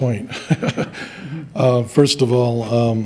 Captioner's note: chuckles